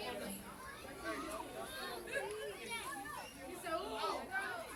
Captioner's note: overlapping chatter